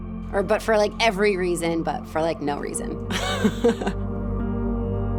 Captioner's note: laughing